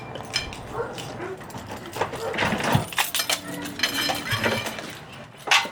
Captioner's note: keys unlocking door